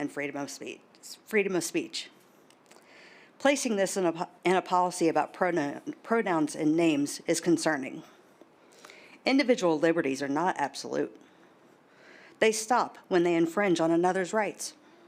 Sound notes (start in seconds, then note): none